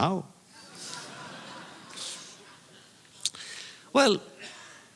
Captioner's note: audience laughter